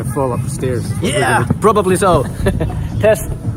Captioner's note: both chuckling